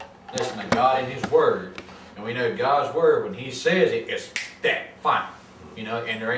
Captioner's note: snaps